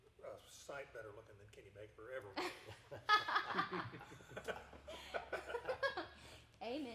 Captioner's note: everyone laughing